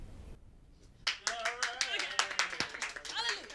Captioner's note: background clapping and cheering